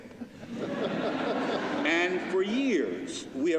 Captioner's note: laughter